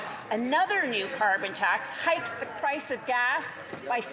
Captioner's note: none